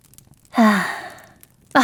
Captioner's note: sigh